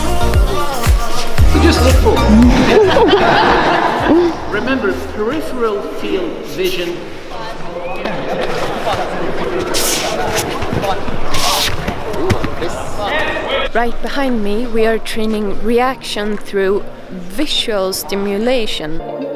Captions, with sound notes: - Just look forward. (everyone laughs) Remember peripheral field vision. This. - Right behind me, we're training reaction through visual stimulation.